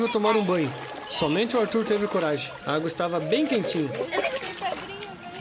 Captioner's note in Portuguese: risos